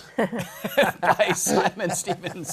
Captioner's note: laughter